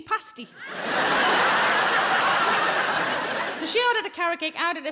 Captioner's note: audience laughs